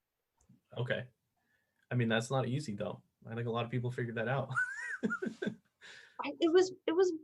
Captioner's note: laughter